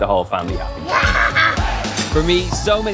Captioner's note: laughing